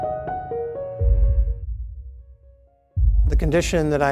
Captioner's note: beating heart